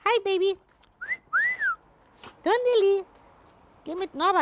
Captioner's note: whistles